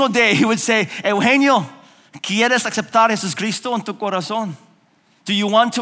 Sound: speaking in foreign language

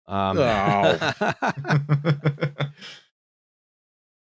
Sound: laughter

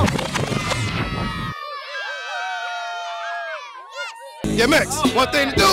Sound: cheers

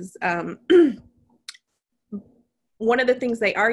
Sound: clearing throat

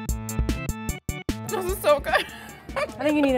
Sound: keyboard music; laughing

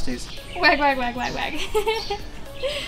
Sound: laughs

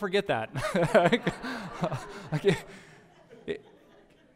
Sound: pastor: Laughter

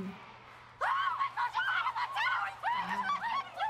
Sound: Natalia laughs; girls screaming

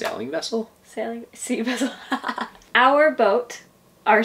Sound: laughs

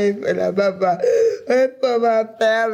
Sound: gasping

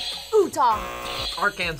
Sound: buzzer rings; buzzer

